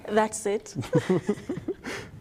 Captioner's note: laughter